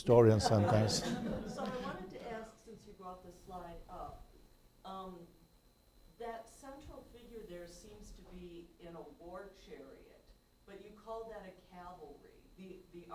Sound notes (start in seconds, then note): 0.2 laughter